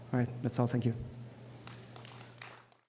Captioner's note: applause